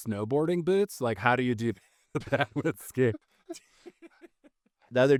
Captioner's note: laughing